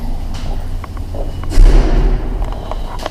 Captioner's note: door slams